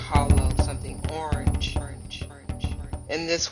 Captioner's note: echoes